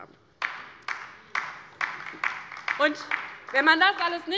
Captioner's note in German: Beifall bei der LINKEN